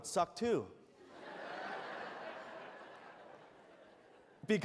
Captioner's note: laughter